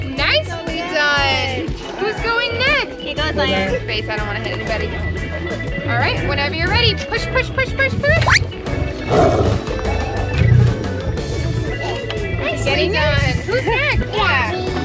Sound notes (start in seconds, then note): 8.1 tiger growling sound effect